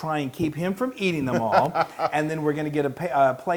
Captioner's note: laugh